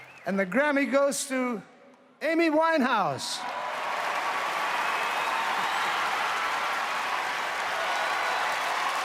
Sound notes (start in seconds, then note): 3.4 audience applauds